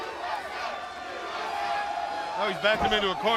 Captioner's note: crowd chatter